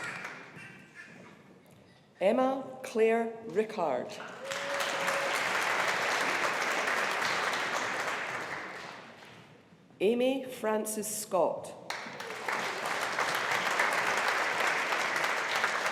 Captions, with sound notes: Emma Clare Rickard, (AUDIENCE APPLAUDING) Amy Frances Scott, (AUDIENCE APPLAUDING)